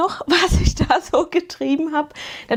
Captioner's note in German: gelächter